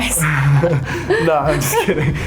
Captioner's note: both chuckle